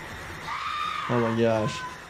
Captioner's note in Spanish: la víctima grita